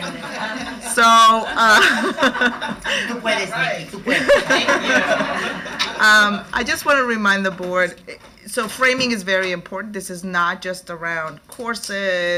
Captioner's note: laughter